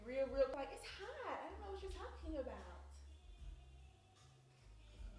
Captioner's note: imitating girl